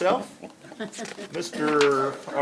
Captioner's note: laughter